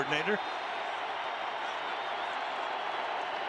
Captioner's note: crowd cheering